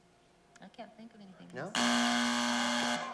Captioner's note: buzzer